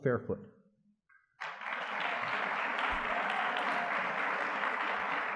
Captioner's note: audience clapping